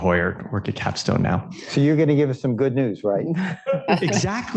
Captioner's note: laughter